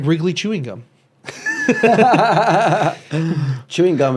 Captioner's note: both laughing